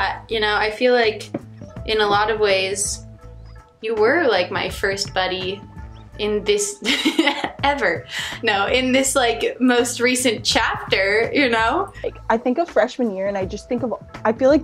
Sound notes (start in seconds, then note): 6.8 laughs